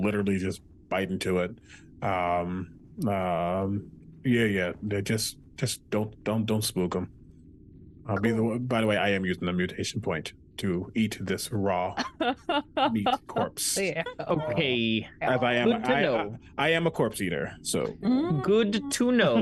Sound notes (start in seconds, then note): 11.9 laughs